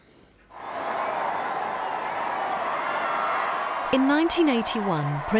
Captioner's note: crowds cheering